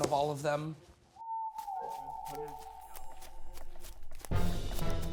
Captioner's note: footsteps plodding; dramatic music